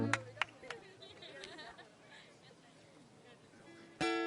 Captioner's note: laughing